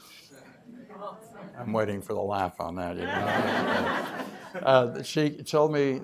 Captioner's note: laughter